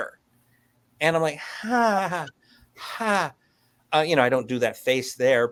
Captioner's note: awkward chuckle